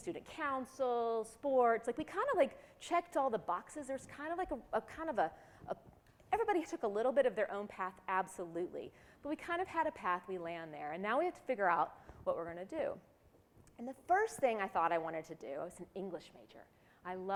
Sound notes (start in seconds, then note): none